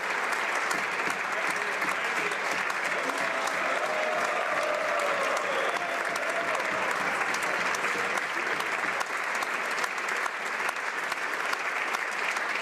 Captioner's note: applause